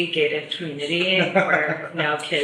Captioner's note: laughs